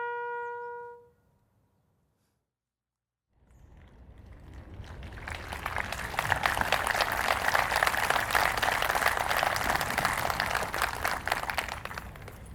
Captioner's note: applause